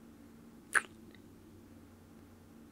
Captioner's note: kiss